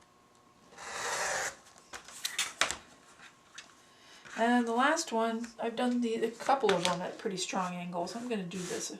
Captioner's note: sound of cutting